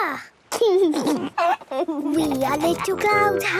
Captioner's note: George giggling